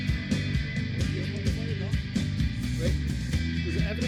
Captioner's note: both conversing